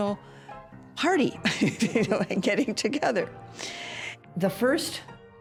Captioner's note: laughs